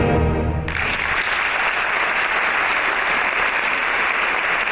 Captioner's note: audience applauds